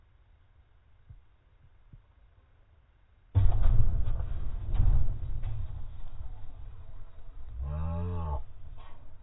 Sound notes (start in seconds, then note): 3.3 slow motion explosion sound; 7.6 slow motion exclamation in Finnish